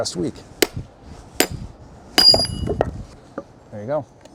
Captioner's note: hammering